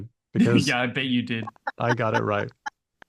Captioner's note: laughing